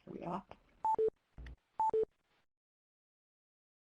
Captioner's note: beeping